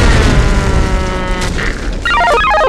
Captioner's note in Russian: Удар